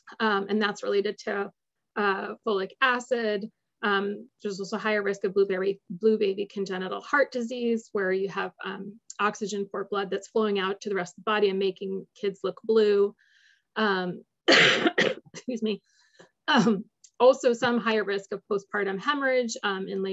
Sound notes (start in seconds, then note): 14.4 cough